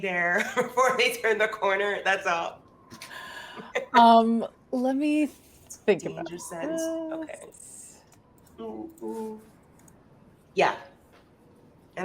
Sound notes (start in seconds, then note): 0.2 chuckles; 3.6 laughs; 7.4 speaks faintly